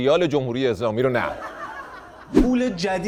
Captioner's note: laughter